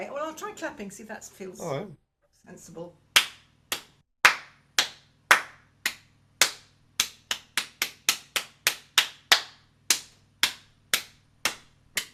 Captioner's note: claps rhythm of melody